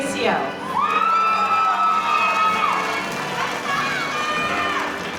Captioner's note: audience cheering